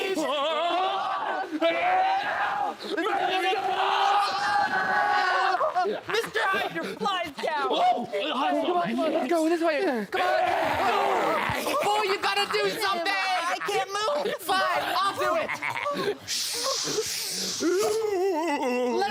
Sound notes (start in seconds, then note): 10.2 snarling; 15.9 snarling and cackling; 15.9 swooshing